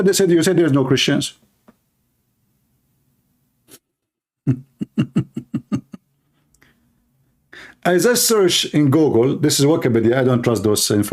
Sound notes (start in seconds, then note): 4.4 Ketawa